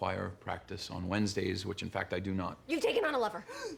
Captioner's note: gasps